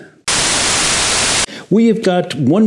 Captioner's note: static sound